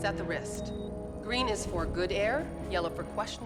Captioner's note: device beeping